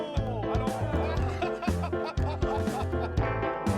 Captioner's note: laughter